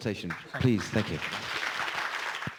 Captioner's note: applause